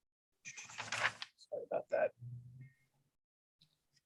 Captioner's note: paper rustling